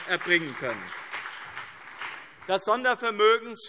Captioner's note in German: Lebhafter Beifall BÜNDNIS 90/DIE GRÜNEN und CDU